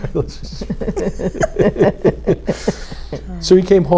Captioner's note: laugh